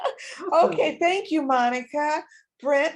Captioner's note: laughs